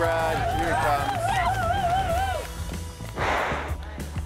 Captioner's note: all cheering; upbeat music